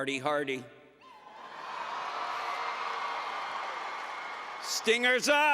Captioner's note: applause and Cheering